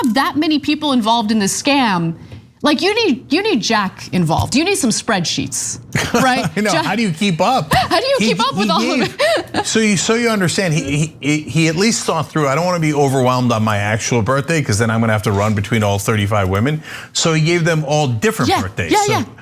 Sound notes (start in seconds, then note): 7.5 laugh